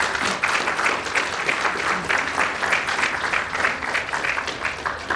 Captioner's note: audience applauding